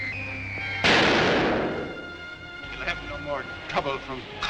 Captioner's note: device explodes